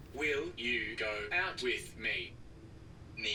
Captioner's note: computer Voice; computer voice speaks in Mandarin